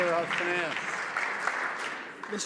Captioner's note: some Applause